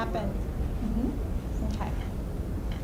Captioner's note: voiceover